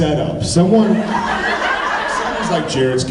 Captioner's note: laughs